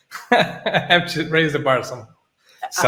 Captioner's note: laughing